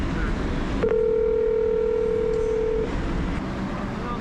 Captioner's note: call ringing